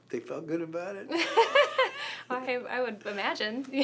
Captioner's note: laughs